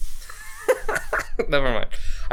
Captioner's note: laughs